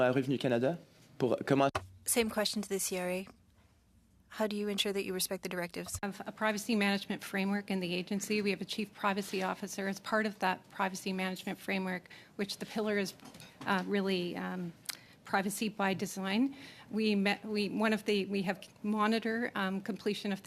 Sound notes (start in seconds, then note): 5.0 speaking French